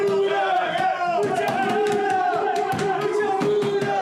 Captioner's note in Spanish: gritan